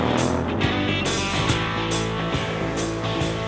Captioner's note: water rushes